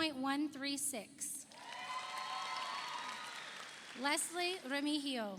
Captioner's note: audience cheers; audience applauds